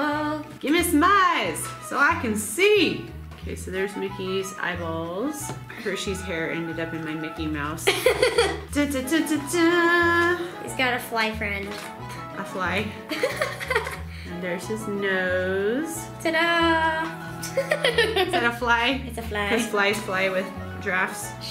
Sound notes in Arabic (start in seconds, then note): 7.8 يضحك; 8.7 تغني; 13.1 يضحك; 17.4 يضحك